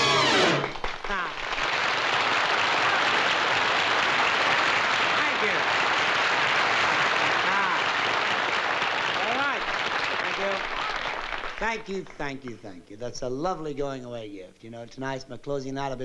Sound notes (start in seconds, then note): 1.4 applause